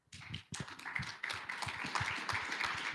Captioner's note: applause